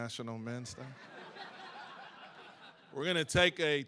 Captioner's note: laughs